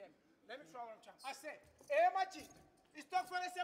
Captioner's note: speaking language other than English